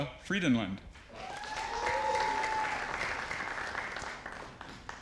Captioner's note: audience applauding